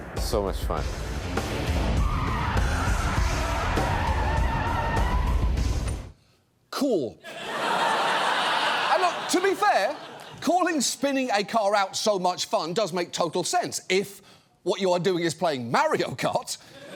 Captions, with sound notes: So much fun. (TIRES SCREECHING) Cool. (STUDIO AUDIENCE LAUGHS) And look, to be fair, calling spinning a car out "so much fun" does make total sense if what you are doing is playing Mario Kart.